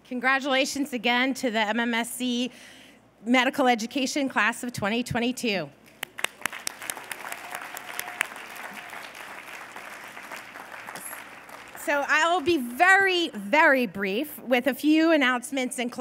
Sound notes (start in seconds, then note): 5.9 applause